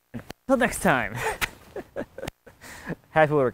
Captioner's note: laughs